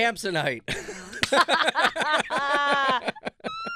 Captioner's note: laughing